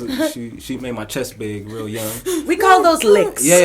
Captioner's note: laughter